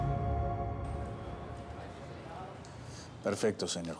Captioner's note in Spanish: murmullos